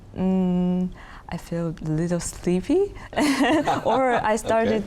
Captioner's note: chuckles